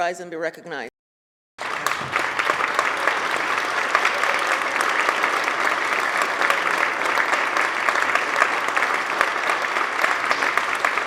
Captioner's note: applause